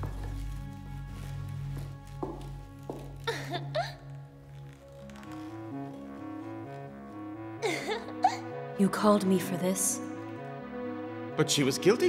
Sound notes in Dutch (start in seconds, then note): 4.0 giechelt; 7.6 Elisabeth hijgt; 7.6 lacht